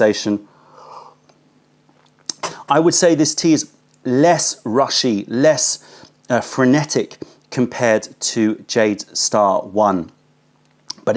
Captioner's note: sips tea